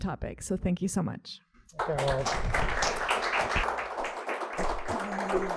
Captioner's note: audience applauds